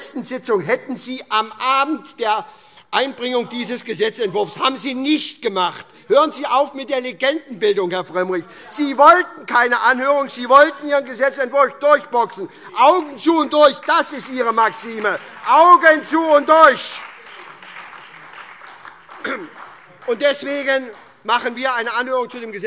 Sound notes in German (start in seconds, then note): 15.0 Beifall SPD und DIE LINKE